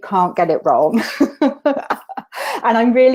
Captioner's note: laughter